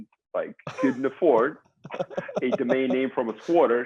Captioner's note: chuckles